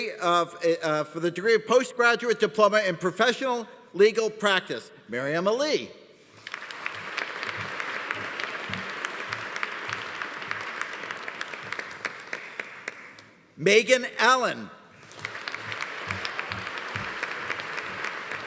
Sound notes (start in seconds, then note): 6.3 audience applauding; 15.0 audience applauding